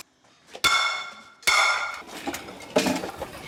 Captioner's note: pots clang